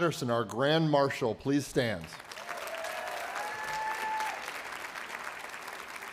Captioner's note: applause